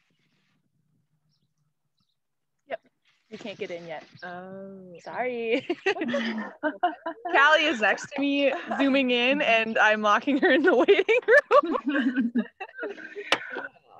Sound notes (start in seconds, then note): 5.6 laughing; 10.3 laughing